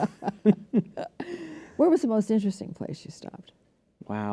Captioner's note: laughter